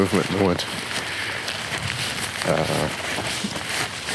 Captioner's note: footsteps rustling